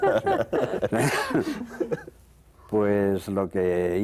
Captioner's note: Risas